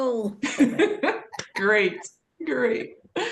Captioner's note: laughs